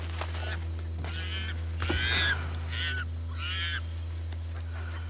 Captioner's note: monkey screeching